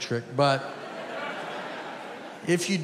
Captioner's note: audience laughing